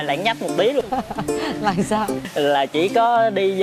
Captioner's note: laughing